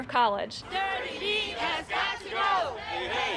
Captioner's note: crowd chanting